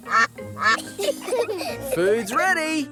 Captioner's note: quacking; children giggle